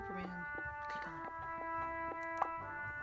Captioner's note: whispering again